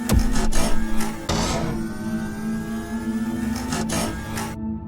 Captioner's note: zap; door closing sounds